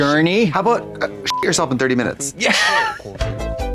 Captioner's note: beep; synth bop